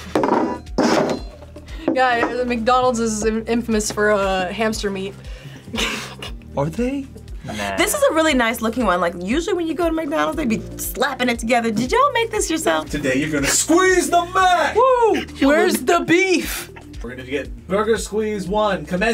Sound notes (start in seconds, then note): 5.7 laughs